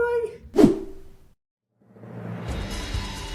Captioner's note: panel swishes